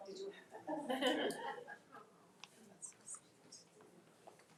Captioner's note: crowd laughing